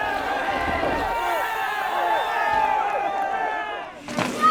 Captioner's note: crowd cheering